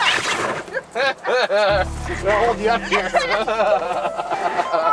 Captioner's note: laughter